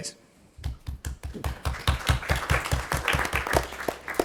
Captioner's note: members clapping